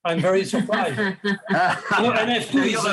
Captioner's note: all laughing